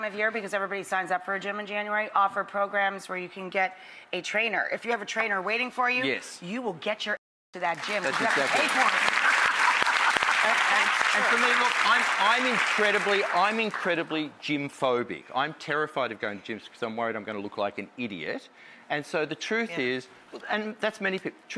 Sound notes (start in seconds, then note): 9.3 audience applause